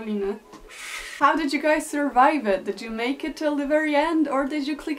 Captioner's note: switches to English